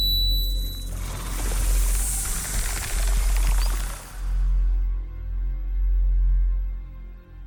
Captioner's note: snake rattles; snake hisses